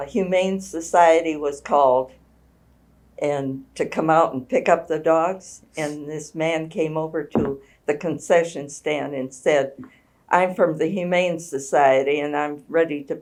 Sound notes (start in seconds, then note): none